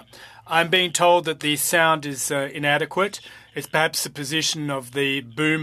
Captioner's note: speaking French